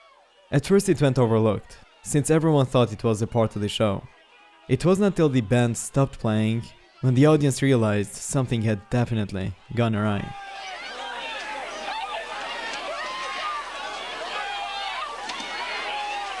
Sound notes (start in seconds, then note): 10.9 crowd clamoring